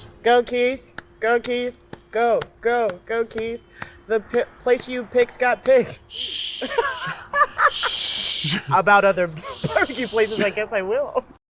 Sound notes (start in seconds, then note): 6.0 laughs